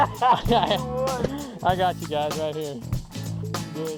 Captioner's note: laughter